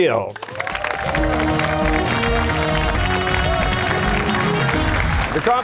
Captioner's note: cheers and applause